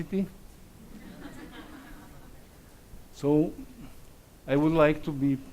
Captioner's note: audience laughs